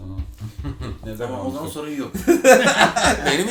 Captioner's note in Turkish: Kahkaha atarlar